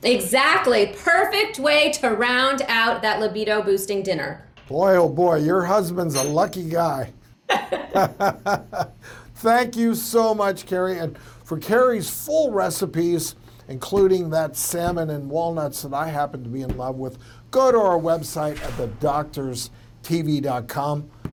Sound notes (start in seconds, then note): 7.4 laughing; 7.4 both laughing